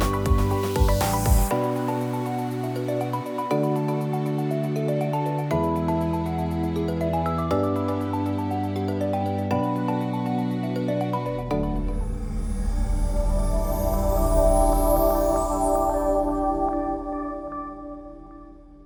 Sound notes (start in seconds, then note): 11.5 gentle chime